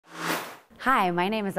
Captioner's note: sound Effects